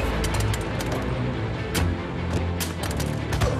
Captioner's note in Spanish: Disparo